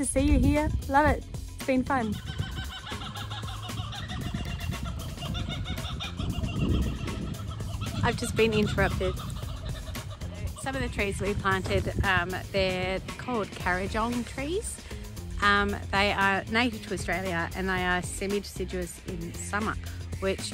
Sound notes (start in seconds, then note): 7.1 kookaburras sing